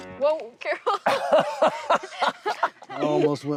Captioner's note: laughter